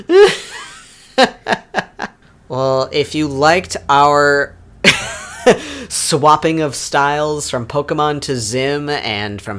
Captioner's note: laughs